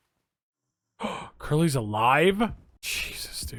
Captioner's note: gasps